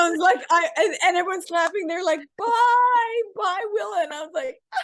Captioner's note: cries